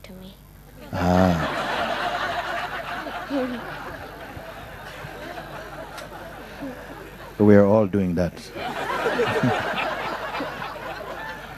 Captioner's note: laughter